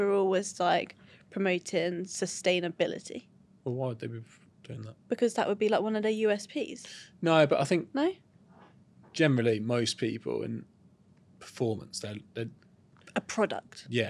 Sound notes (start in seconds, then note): none